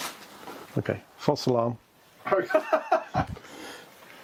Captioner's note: laughs